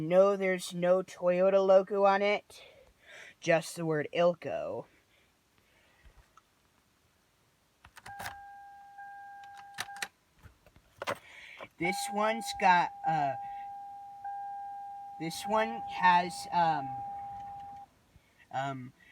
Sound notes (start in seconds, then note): 7.9 key clicks; 8.0 door chime dings